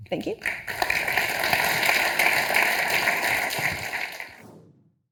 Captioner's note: audience applauding